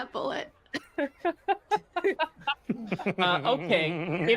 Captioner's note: laughs